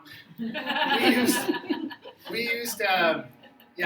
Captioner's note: crowd laughs